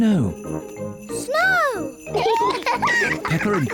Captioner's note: both giggle